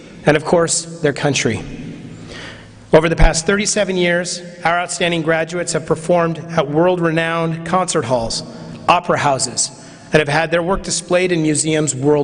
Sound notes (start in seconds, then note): none